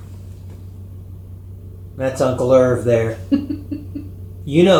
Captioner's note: giggle